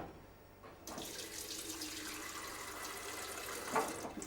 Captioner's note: water running